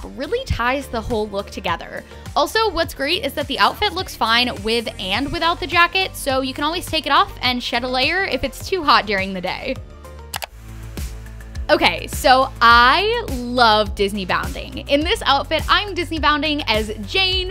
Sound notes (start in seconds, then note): 10.3 mouse click